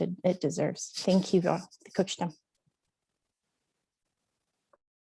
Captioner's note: foreign language